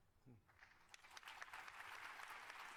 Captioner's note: applause